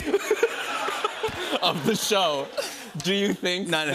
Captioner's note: laughter